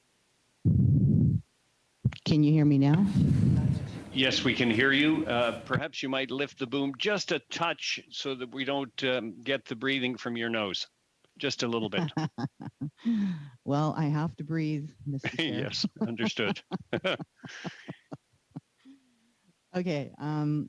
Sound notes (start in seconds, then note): 16.8 chuckles